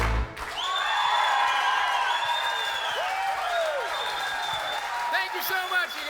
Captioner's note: cheering